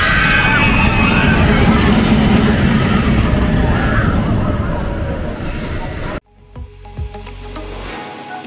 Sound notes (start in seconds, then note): 0.0 screams